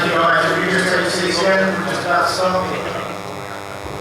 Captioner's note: man speaking off mic